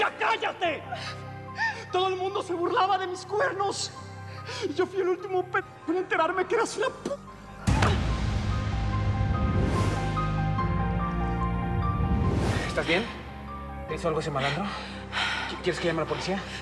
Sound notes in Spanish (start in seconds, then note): 9.2 golpe contundente